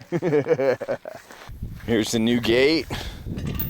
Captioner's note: laughing